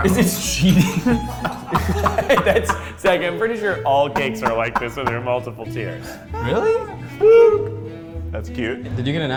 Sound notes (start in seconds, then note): 2.2 laughs